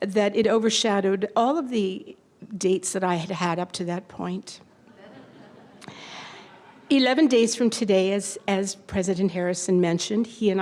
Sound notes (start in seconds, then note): 4.9 slight laughter